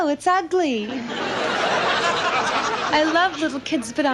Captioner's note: audience laughs